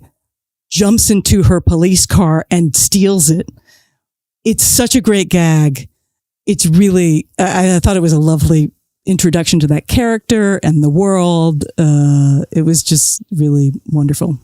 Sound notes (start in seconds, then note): none